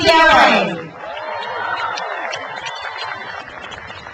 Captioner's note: crowd cheers